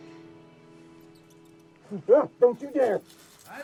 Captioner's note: mouse squeaks; exclaims